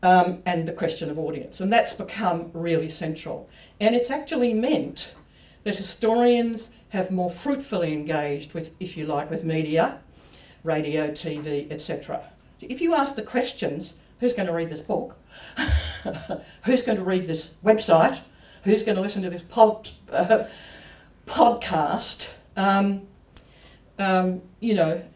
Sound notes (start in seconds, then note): 15.6 laughs